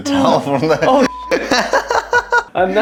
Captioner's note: laughter